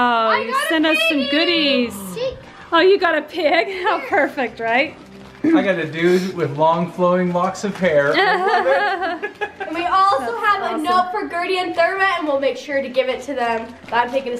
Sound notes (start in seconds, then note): 8.1 laughing